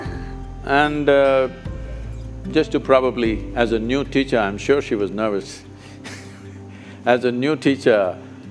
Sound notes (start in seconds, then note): 0.0 laughs; 5.9 laughs